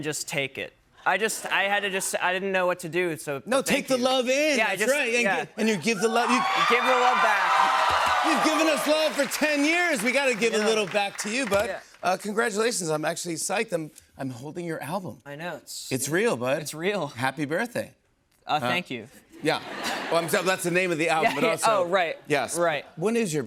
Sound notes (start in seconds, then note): 6.0 cheers and applause